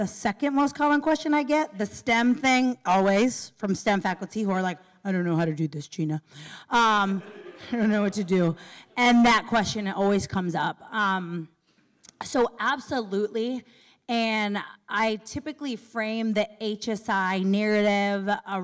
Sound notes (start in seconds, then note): 6.2 laughter